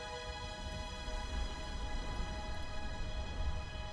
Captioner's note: wind blowing